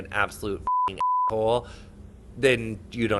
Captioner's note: beep